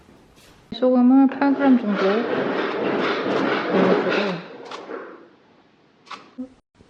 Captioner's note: sorry for spinning noise at the background